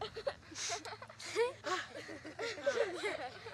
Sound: children laugh

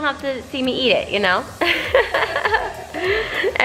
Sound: laughs

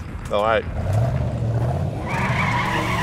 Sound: engine rumbles; tires squealing

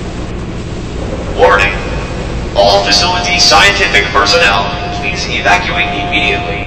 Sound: alarm

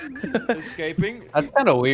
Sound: giggle

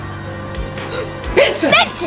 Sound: assistant gasps

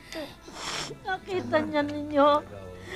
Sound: sniffles

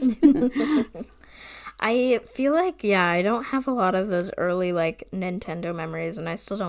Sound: laughs

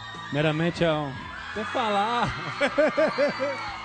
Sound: laughs

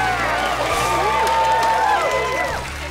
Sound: crowd cheering

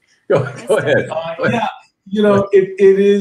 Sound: members laugh

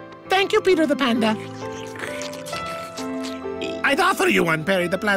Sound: sipping noises

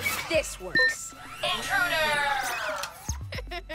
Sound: powering down; laughter

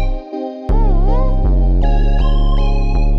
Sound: woo-oo-ooh

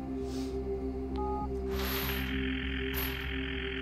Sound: telephone beeps and rings

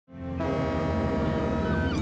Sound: horn blowing

